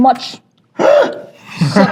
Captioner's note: gasps